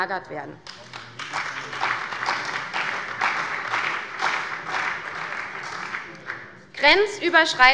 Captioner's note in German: Beifall bei der CDU und dem BÜNDNIS 90/DIE GRÜNEN